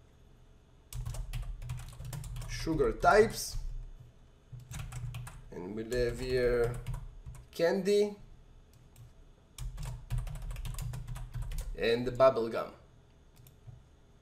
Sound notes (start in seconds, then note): 0.9 typing; 9.6 typing